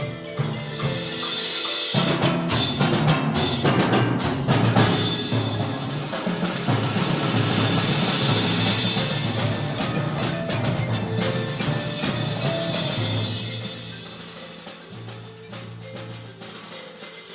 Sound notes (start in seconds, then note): none